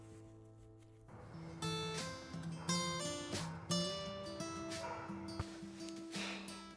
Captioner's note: somber guitar music; dog barking